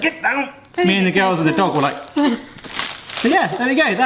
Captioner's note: whimpering